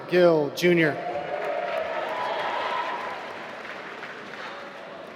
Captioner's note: applause